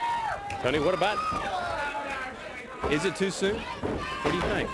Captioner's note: crowd cheering